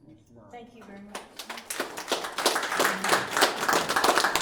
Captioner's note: applauding